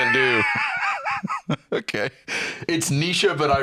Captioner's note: laughs